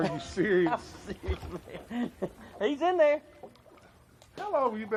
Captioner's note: laughs